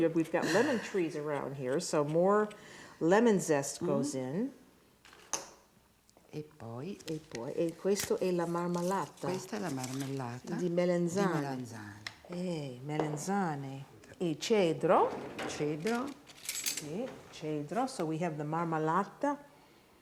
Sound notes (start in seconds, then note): 6.4 speaking Italian